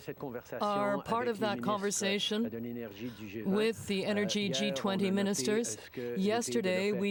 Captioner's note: speaking french